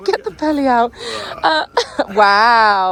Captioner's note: laughs; groans